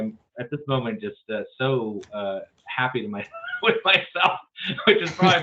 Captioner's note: laughs